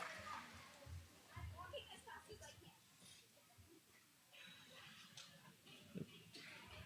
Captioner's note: audience applauding